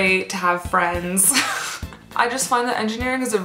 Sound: laughs

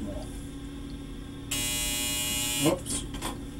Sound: phone buzzes

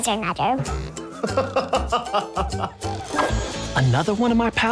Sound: laughs

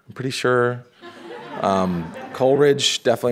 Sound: audience laughing

